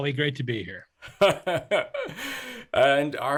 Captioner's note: chuckles